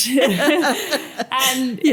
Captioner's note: laughter